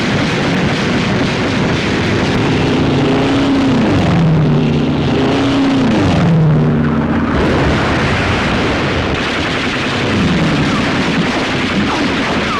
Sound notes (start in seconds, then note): 0.1 gun firing; 2.7 plane flying overhead; 7.9 explosions; 9.4 guns firing